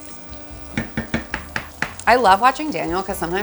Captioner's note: pan thuds